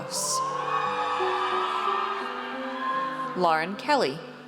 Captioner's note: audience cheers